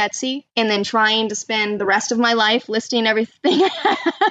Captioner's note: laughs